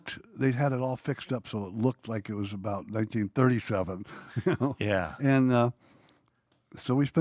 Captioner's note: laughs